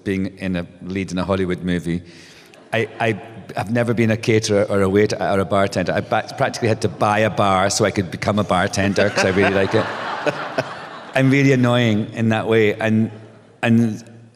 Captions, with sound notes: being in a lead in a Hollywood movie. I have never been a caterer or a waiter or a bartender. I practically had to buy a bar so I could become a bartender because I really like it. [laughter] I'm really annoying in that way.